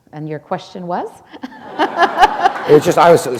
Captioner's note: laughter